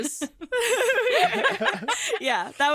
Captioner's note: all laugh